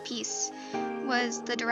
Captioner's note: brEATH